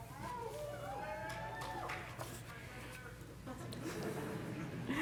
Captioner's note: congregation applauding